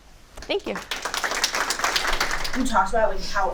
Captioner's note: audience applauding